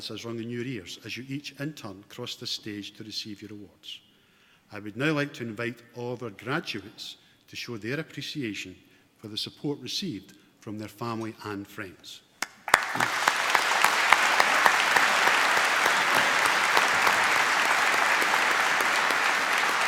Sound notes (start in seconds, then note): 12.4 applause